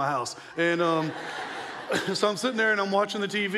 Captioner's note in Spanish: la audiencia se ríe